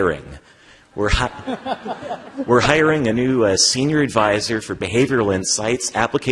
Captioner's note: laughter